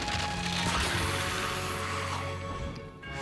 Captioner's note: rumbling